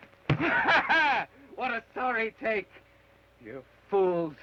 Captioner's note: laughs